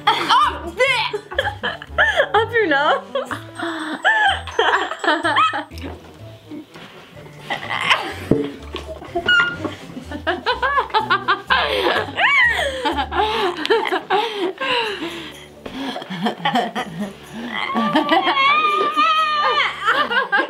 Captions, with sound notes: - Oh! Bleh! (laughing) - Up your nose? (laughing)